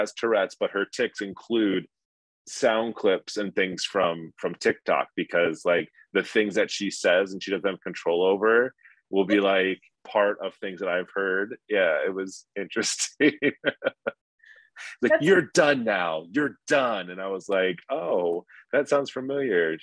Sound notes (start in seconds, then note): 12.6 laughing